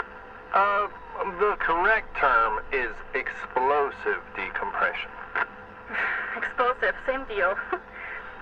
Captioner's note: sigh